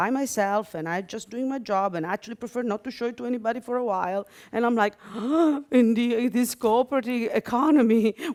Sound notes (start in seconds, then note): 4.3 gasp